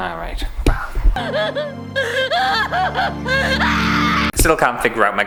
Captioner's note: hysterical Screaming